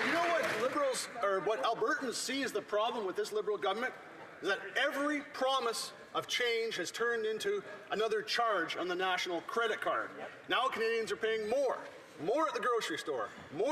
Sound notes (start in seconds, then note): 1.6 some Applause